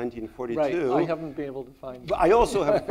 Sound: laughs

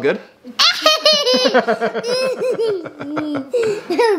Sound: both laughing

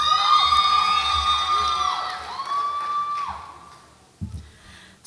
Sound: audience applauds and cheers

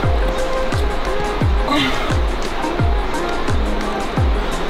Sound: grunts

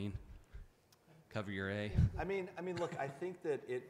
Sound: audience Member 2 chuckling

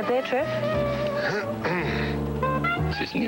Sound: clears throat

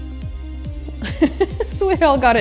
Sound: laughs

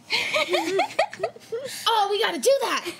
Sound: chuckling

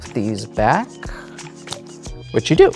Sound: cards slapping on table

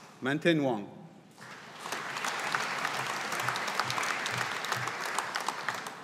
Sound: audience applauding

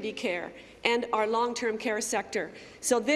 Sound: none

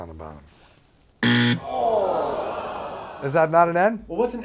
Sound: buzzer

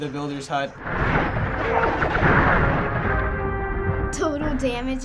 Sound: explosions

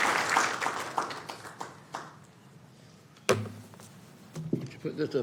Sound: applause

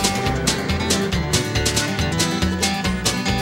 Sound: train chugging

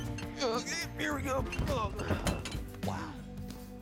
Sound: groans

